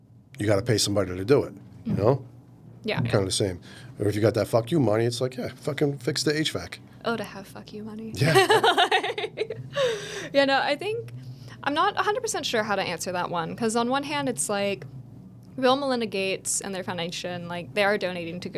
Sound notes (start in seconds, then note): 8.2 laughing